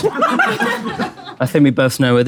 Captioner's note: people in room laughing